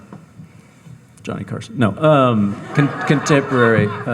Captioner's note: audience laughing